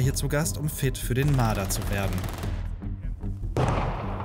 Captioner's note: automatic shots